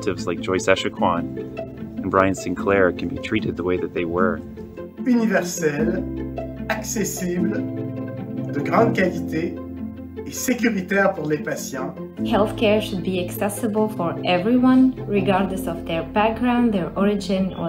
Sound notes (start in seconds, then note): 7.5 speaking french